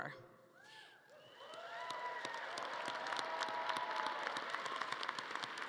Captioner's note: audience cheering and clapping